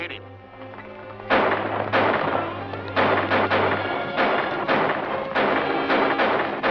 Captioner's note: gunshots